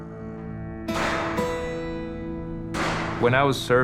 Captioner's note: gunshots firing